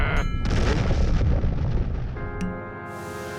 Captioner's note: growls; deep rumble and explosion